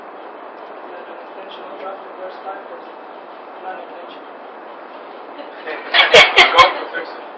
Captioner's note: mescitte gülüşmeler